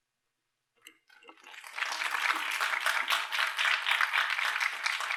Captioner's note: applause